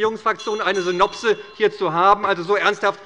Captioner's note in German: Anhaltende Unruhe - Glockenzeichen des Präsidenten